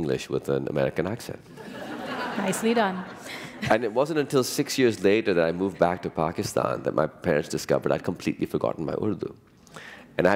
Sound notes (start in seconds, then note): 1.5 laughter